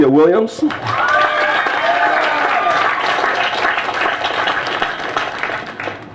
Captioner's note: applause